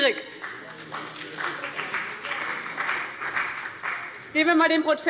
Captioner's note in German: Beifall bei dem BÜNDNIS 90/DIE GRÜNEN und der CDU